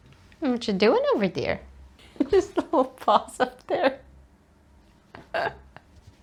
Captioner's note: laughs